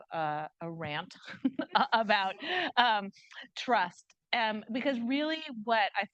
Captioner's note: chuckles